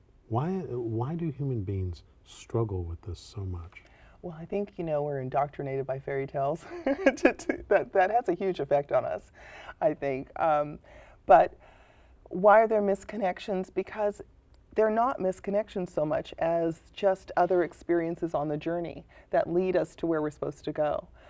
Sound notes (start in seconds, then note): 6.6 laughter